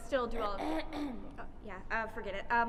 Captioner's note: cough